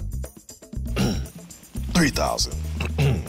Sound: throat clearing

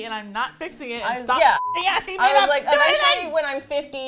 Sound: yells

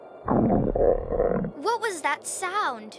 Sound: growl

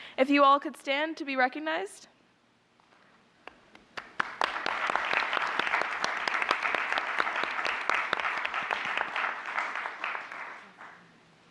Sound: applause

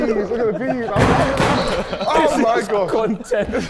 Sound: Sidemen laughing

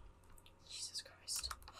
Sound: whispers

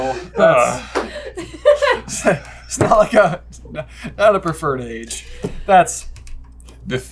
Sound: laughing

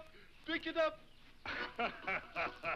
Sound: One Eye cackles; lively harmonica music

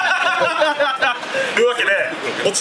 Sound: laughs

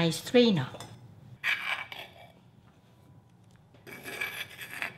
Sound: spoon scratching; spoon scratching

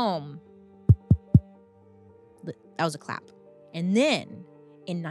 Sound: tapping

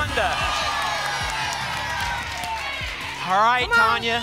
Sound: applause and cheering

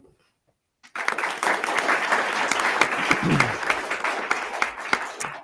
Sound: attendees clapping

